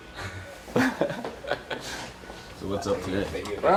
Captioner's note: laughing